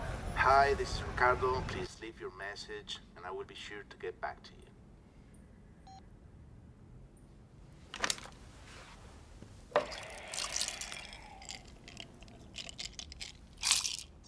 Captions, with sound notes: - Hi, this is Ricardo. Please leave your message and I will be sure to get back to you. (beep)